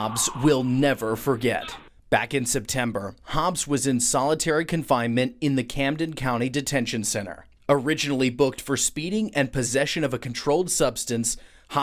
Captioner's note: nat pop screaming